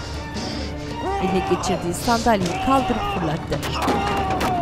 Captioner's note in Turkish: Nefes sesi; Bağırma sesi